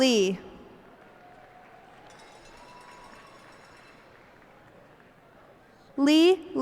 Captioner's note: cheers and applause